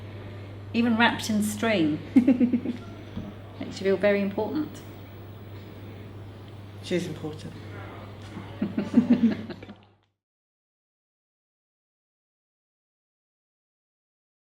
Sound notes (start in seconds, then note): 2.2 laughs; 8.4 both laugh